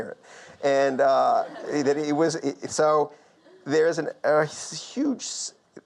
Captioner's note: audience laughs